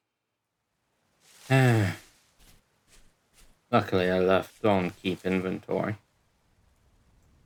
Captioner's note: sigh